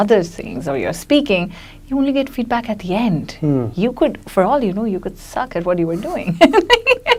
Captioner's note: laughs